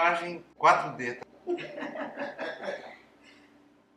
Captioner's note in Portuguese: Risos